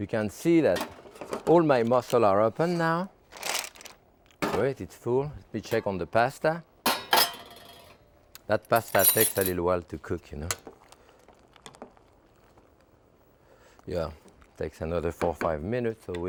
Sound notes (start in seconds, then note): 3.3 mussels rattling